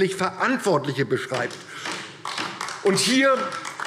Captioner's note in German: Beifall DIE LINKE